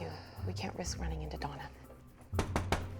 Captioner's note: knocks